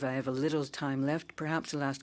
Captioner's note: speaking in French